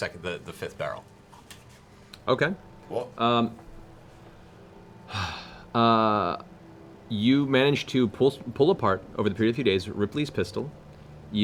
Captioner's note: sighs